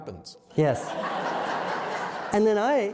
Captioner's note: laughter